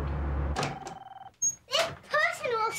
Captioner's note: phone ringing